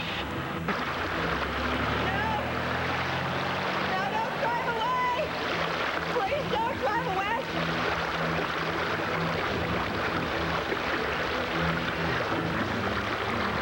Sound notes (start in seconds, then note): 0.0 CAR STARTS and PULLS AWAY